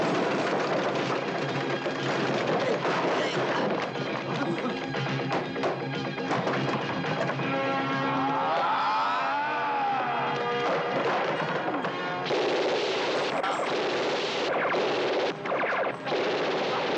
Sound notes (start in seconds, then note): 0.0 debris clattering; 0.1 dramatic music; 8.0 debris clattering; 8.0 men yelling; 10.6 guns blasting